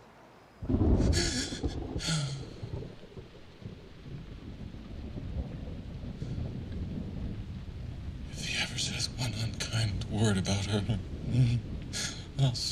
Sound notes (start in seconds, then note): 1.5 thunder rumbling, sobbing